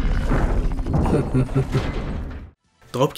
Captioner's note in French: rires de Shatter